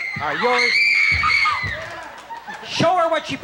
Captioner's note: screaming loudly